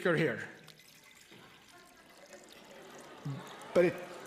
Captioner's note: audience responds tentatively